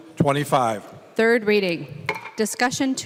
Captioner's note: gavel